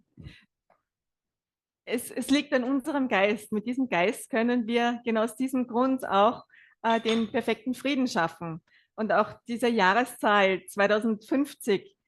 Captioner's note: German live translation